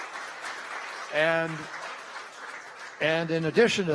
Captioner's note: applause